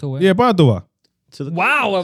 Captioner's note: speaking Spanish